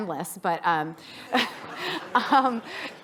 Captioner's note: laughing